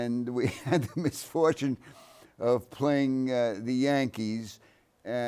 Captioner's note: chuckles